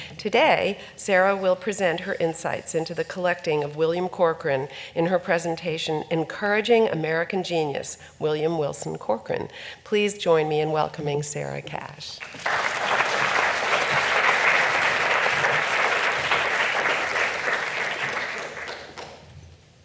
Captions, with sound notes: Today, Sarah will present her insights into the collecting if William Corcoran in her presentation Encouraging American Genius: William Wilson Corcoran. Please join me in welcoming Sarah Cash. (audience applauding)